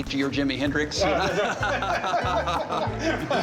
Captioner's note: group laughs